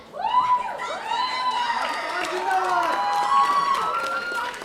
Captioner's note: audience cheering